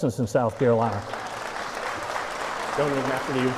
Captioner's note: applause